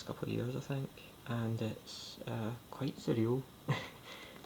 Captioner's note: laughs